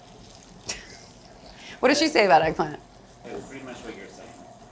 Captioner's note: chuckles